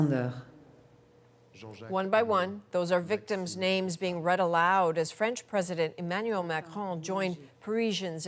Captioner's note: speaking French